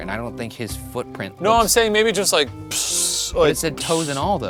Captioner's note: imitates pee splashing